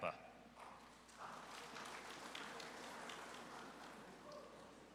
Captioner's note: audience applauds